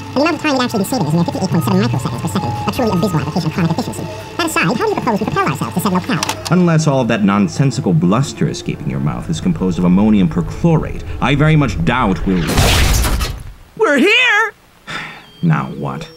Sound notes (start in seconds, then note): 12.5 crash; 14.9 sigh